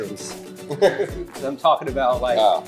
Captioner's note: laughs